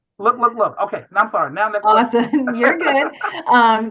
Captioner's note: laughter